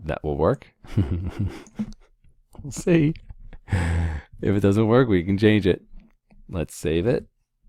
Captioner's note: laugh